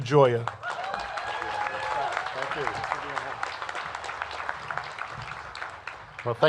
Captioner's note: cheers and applause